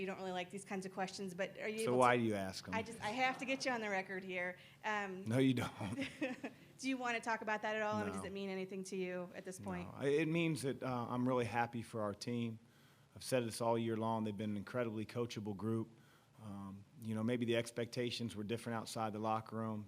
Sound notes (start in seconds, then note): 5.6 laughter